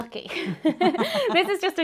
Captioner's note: laughing